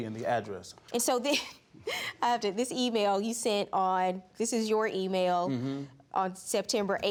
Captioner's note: laughs